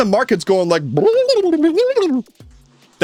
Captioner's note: market fluctuation sounds